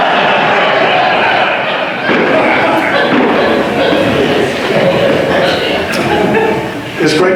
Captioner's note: more audience laughter